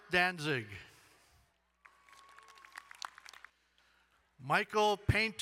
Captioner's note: crowd cheering and applauding